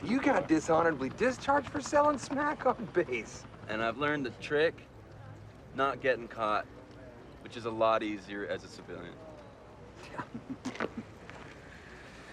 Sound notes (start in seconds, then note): 9.9 chuckles